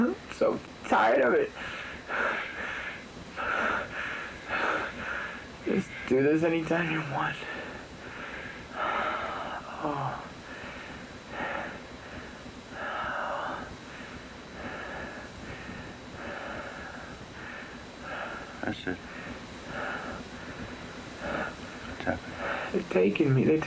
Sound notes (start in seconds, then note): 3.3 heavy breathing; 7.5 breathing slows